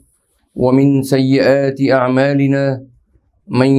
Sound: arabic

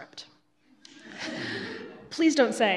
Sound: laughing

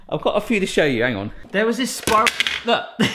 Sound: plastic clatters

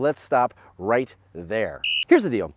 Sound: whistle blows

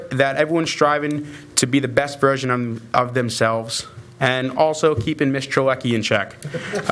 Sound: laughter

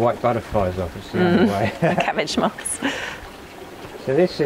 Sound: laughs

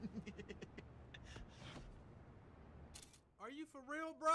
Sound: laughing

